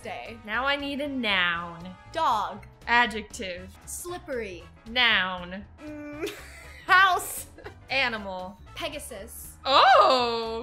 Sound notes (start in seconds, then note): 6.0 laughs